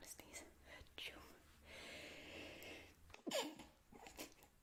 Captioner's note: sneezes